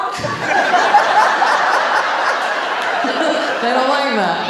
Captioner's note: audience laughing